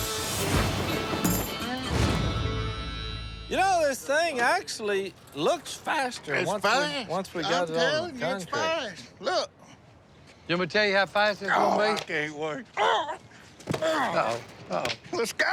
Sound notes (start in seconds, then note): 13.8 grunt